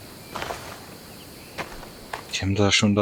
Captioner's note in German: stöhnen